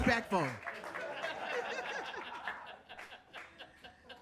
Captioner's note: audience laughing